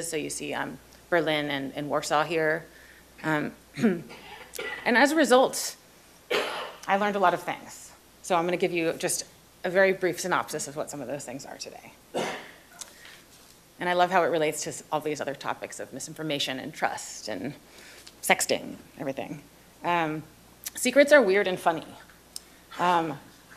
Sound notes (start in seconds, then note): 6.3 coughs; 12.1 coughs